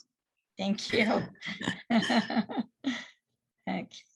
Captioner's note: laughs